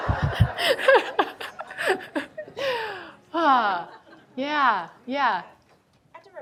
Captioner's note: audience laughing; laughs